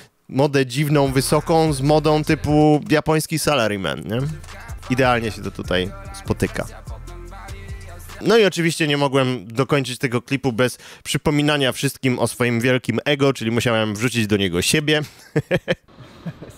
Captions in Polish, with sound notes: modę dziwną, wysoką z modą typu japoński salary man, nie. Idealnie się to tutaj spotyka. No i oczywiście nie mogłem dokończyć tego klipu bez przypominania wszystkim o swoim wielkim ego, czyli musiałem wrzucić do niego siebie. (śmiech)